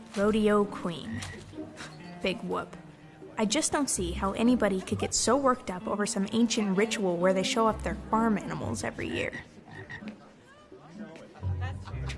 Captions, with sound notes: Rodeo Queen. (Caitlin scoffs) Big whoop. I just don't see how anybody could get so worked up over some ancient ritual where they show off their farm animals every year. (frog croaking)